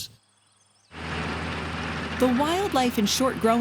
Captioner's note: combine noise